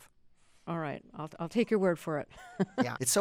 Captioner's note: laughter